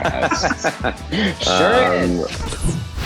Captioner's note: all laugh